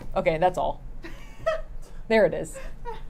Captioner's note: laughing